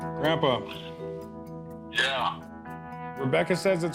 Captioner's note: on phone